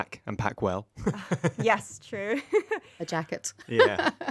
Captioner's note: laughing